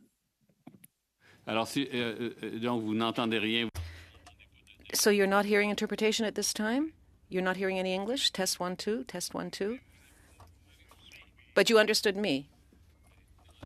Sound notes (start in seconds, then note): 6.5 speaking French